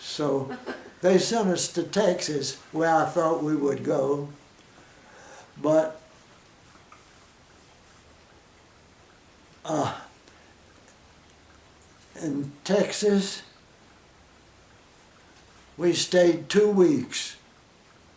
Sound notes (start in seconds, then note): 6.0 silence; 13.5 silence